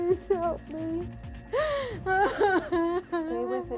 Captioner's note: crying